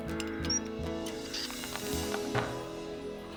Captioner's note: squeak, Squeak